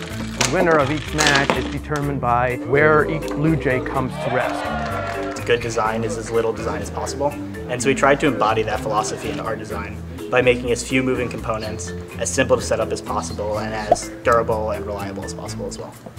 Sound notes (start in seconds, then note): 4.0 students cheer